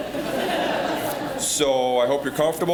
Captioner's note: audience laughing